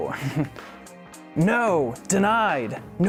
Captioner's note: chuckles